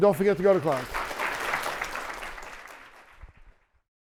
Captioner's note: applause